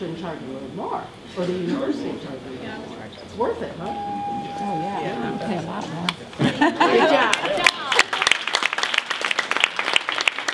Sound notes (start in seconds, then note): 4.5 audience murmuring agreement; 7.2 clapping